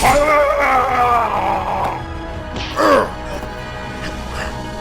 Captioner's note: alien painful scream